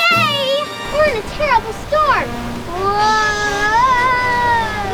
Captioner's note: celebratory horns; rain, thunder; intense music